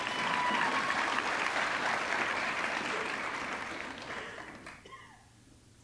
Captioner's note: audience cheering; audience clapping